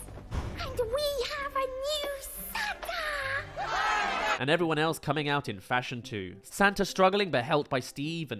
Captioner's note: cheers